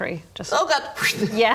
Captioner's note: whoosh